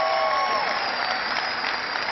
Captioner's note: cheering